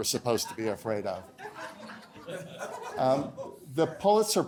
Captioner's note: laughter